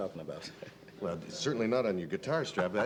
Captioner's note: laughing